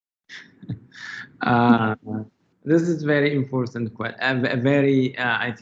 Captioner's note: laughs